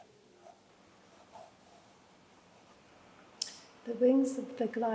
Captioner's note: pencil scratches